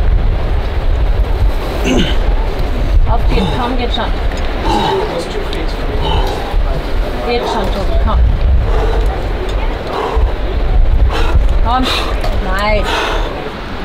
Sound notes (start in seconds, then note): 1.8 grunting; 2.9 speaking foreign language